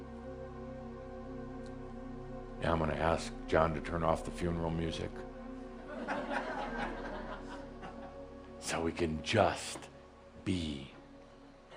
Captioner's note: some giggles